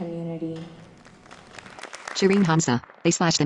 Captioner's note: applause